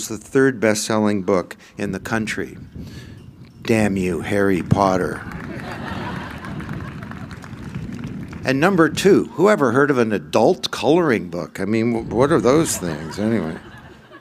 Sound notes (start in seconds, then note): 5.2 laughter